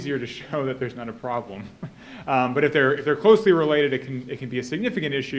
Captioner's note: chuckles